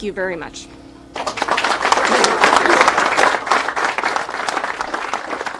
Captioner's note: people applauding